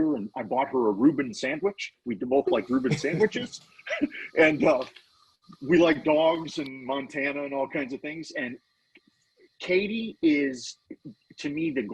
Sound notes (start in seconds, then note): 3.8 laughing